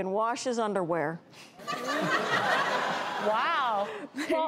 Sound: audience laughs

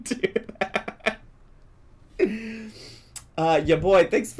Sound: laughs

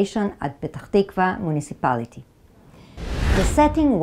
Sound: graphics whooshing

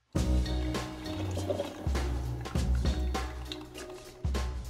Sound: coffee brewing

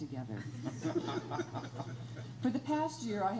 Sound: crowd laughs

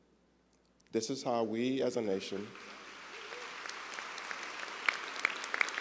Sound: audience applauds

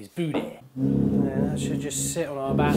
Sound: bathtub sliding against walls

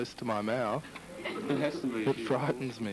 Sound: laughs

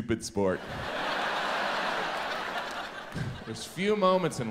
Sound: audience laughs

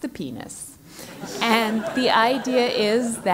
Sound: laugh

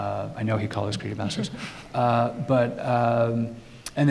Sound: laughing

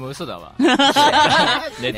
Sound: Ayu laughing

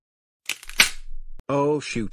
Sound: snaps

